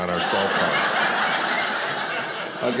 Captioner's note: audience laughing